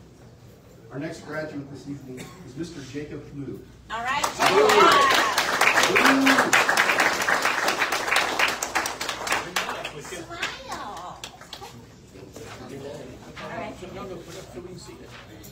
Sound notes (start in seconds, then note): 4.3 audience cheers and applauds; 12.7 indistinct chatter